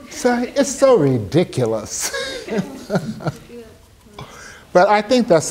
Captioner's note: laughing